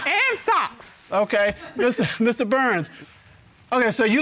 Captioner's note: chuckles